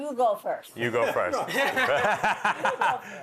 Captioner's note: laughter